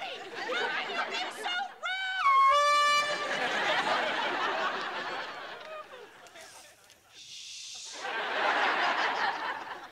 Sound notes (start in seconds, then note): 2.2 foghorn blowing